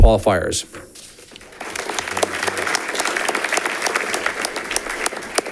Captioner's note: audience applauding